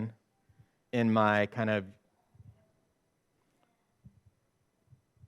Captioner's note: chuckles